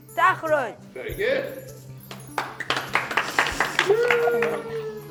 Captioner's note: gentle applause